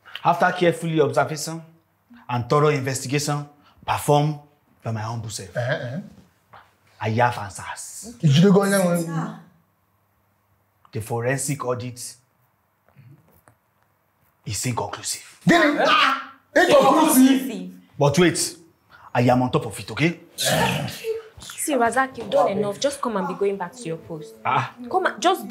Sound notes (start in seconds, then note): 15.5 all exclaims; 20.2 kisses lips